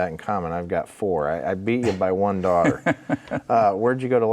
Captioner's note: laughing